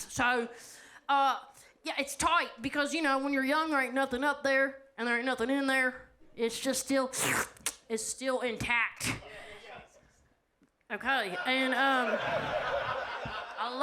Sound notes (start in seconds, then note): 7.1 slurps; 11.4 audience laughs